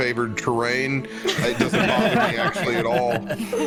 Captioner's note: all laughter